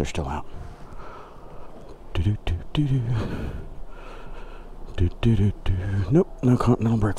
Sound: humming

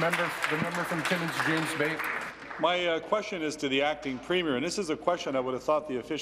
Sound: applause

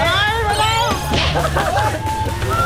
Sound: chuckles

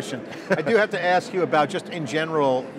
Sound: laughing

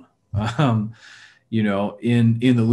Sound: chuckles

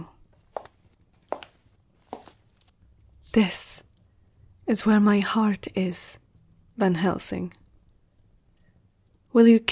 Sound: footsteps

